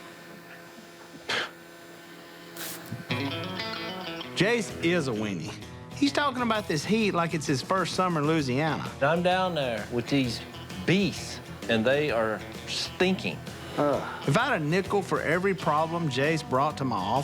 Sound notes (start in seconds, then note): 0.7 scoffs; 2.4 spray hisses